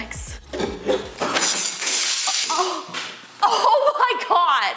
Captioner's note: knife falls